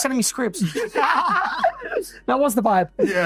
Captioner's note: all laugh